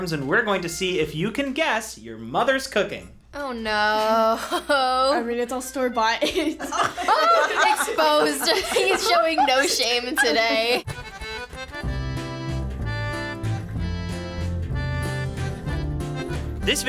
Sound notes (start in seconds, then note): 6.2 laughs; 11.0 accordion intro